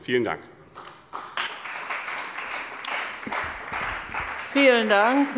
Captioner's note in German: Beifall bei dem BÜNDNIS 90/DIE GRÜNEN und der CDU